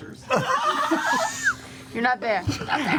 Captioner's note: laughter